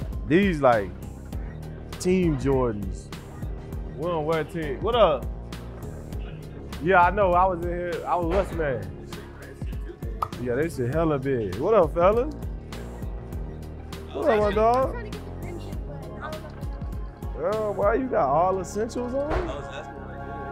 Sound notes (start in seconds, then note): 14.1 kids Chatting; 20.2 background chatter